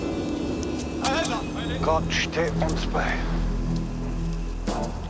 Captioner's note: speaking german